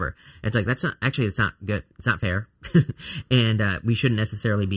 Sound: laughs

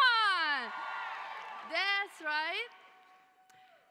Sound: cheering

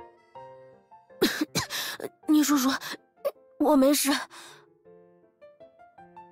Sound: coughs

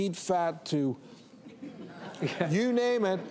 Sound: audience laughing

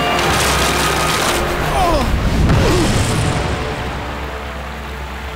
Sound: grunting

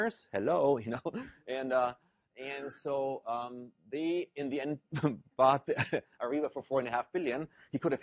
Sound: laugh

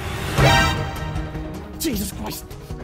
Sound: alerted sound effect

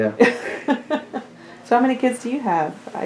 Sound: laughter

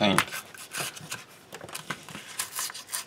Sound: tearing sounds

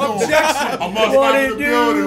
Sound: laugh

